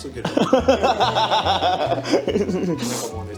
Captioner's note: laughing